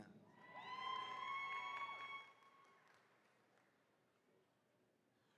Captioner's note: attendees cheering